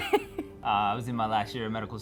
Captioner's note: laughs